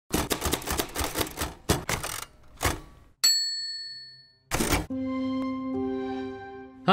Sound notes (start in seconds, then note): 0.1 typewriter clacking; 3.2 bell ringing